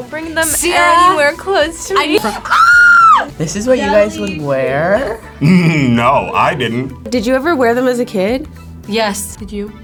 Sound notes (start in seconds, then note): 2.1 screams